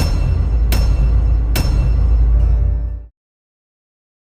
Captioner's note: cinemasins intro sound effects